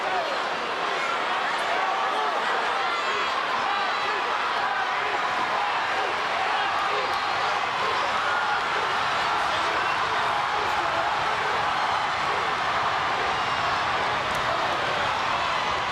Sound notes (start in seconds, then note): 9.8 crowd cheering